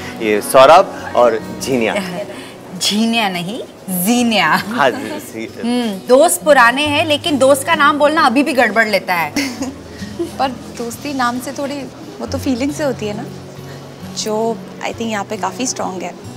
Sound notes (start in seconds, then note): 9.3 Gauravi laughs